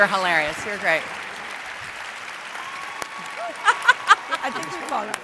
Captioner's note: audience applauds